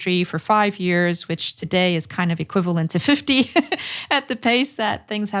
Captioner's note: laughs